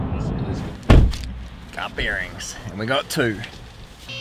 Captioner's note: car door thuds